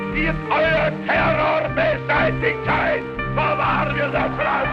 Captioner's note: Hitler speaking in German